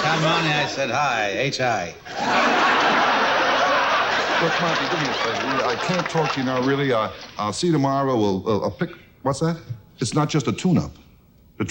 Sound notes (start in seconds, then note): 2.0 audience loudly laughs